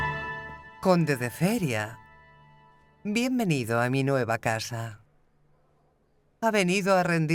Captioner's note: Elizabeth speaks in a foreign language